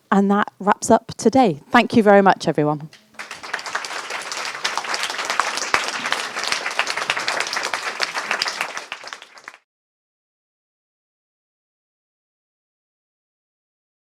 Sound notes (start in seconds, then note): 2.9 applause - End